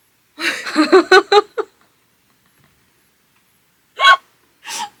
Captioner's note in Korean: 계속 나오는 웃음